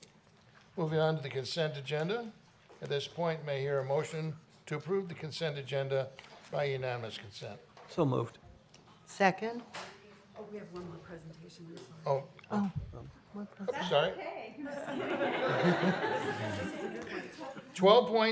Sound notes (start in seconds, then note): 14.7 laughter